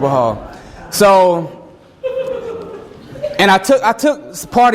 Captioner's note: student giggling